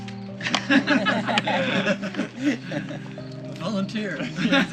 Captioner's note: all laughing